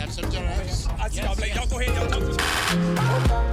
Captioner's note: excited muttering